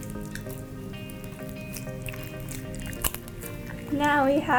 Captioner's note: slime squishes